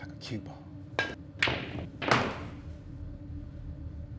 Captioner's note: balls clacking; eerie music